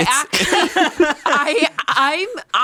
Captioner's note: laughs